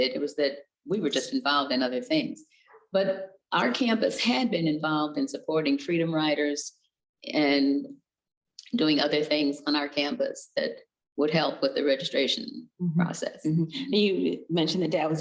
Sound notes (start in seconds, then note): none